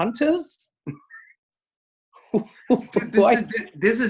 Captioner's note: both laugh